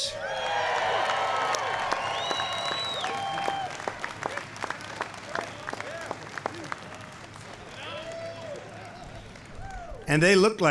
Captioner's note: applause